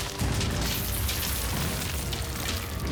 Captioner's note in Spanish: estruendo del derrumbe